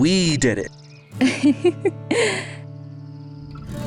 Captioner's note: laughs